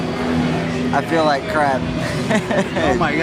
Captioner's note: laughing